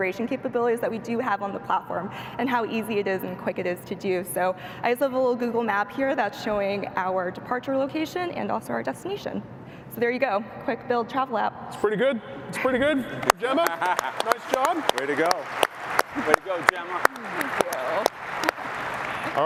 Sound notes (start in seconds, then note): 12.5 laughs; 18.0 applause